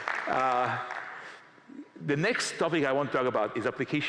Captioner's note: applause